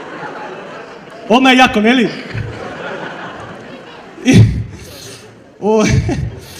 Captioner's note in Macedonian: смеа